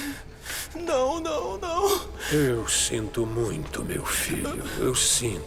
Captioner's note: none